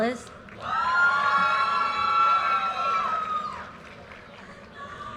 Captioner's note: audience cheers and applause